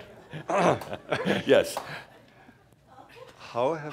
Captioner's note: chuckling